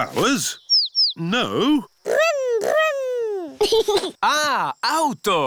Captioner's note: giggles